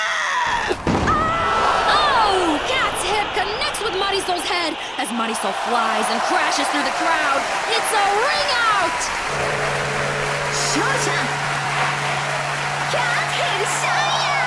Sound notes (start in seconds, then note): 8.8 gong